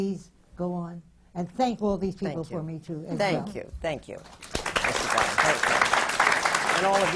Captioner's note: applause